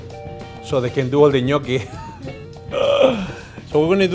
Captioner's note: laughs